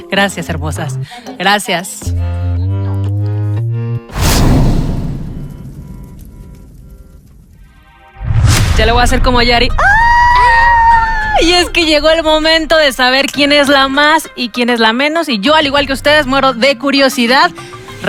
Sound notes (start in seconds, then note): 9.6 screams in fierce host